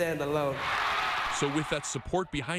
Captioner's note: applause